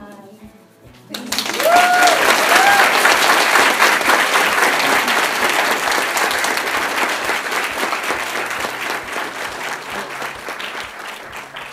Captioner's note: applause